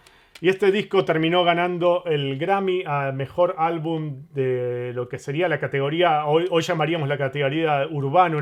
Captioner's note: Latin